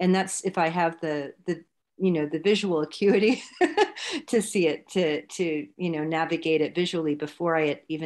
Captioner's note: laughs